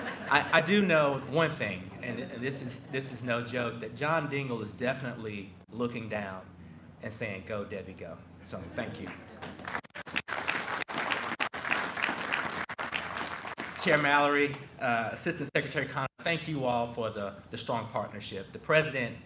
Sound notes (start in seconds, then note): 0.0 laughter; 9.0 applause